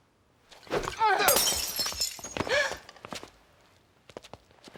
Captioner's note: shatters